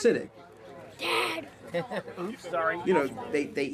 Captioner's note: laughs